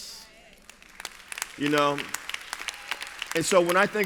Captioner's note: applause